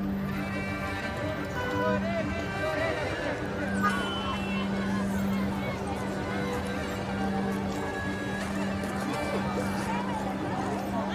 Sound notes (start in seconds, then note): 1.5 people talking